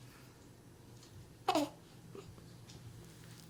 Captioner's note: baby cooing